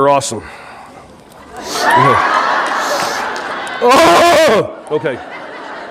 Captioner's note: audience laughing